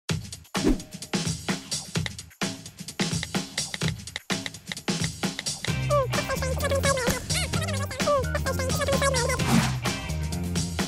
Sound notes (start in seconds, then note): 0.6 rock music; 6.3 high-pitched speed-talking